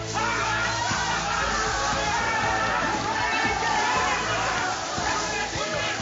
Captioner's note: shouting and water hissing